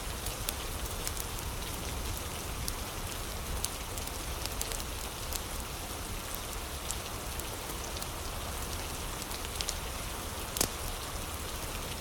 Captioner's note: fire crackling